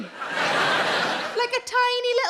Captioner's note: audience laughs